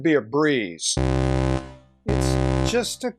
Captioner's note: alert